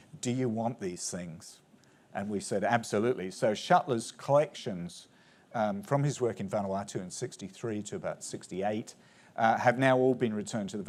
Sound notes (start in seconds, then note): none